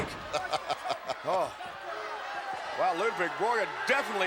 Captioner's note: Ted laughs